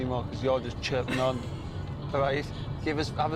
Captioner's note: Anna laughing